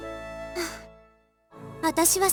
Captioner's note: weary breath